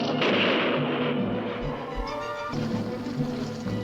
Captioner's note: gun firing